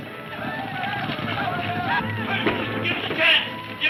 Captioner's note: men shouting